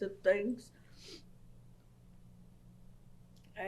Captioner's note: pauses for 3 seconds